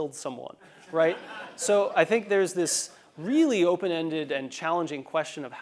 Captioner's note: laugh